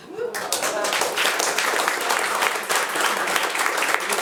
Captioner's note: attendees applauding